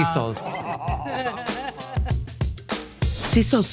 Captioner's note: group laughing; upbeat music